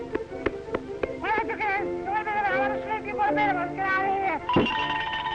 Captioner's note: yelling